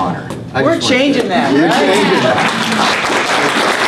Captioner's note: applause